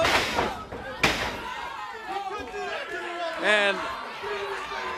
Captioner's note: crowd cheering